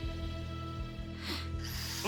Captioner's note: sniffs